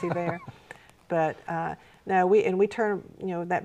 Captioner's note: laughing